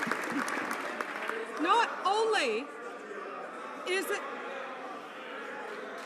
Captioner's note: some Applause